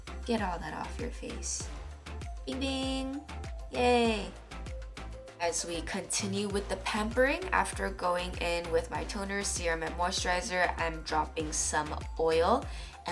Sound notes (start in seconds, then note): 3.7 bing bing